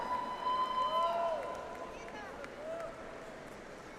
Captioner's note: audience applauds